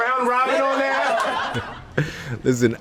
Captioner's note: laughing